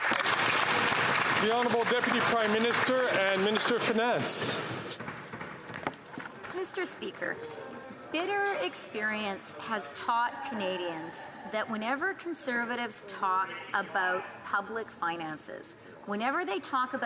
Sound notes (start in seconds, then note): 5.1 some Applause